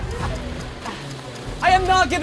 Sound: clock ticking

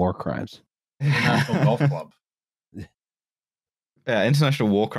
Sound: laughter

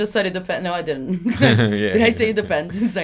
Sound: chuckles

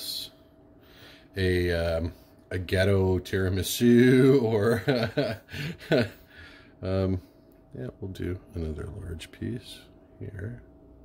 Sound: laughing

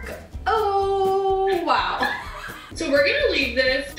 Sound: laughter

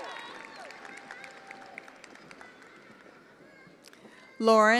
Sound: attendees applauding

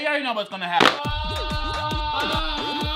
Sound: snaps fan; upbeat music; yells loudly

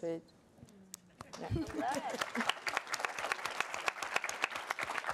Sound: audience applauds

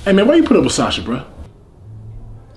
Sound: none

